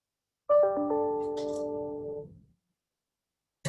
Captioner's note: computer chimes